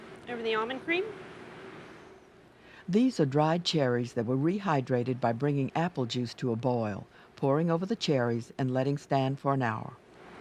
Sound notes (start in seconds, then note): 2.6 voiceover